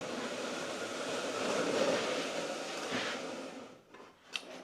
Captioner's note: dragging tool noise